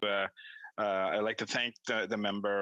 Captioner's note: speaking in French